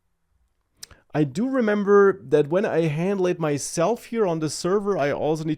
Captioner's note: clicks tongue